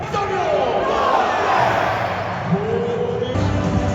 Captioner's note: people Chanting